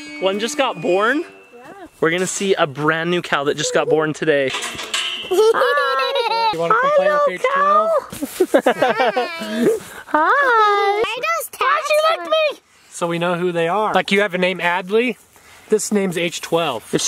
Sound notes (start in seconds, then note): 5.3 laughter